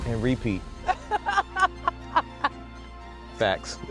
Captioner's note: laughing